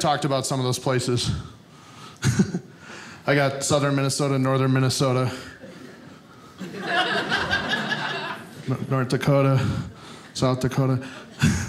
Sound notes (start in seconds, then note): 5.6 audience laughing